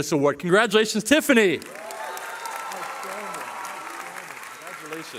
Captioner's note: cheering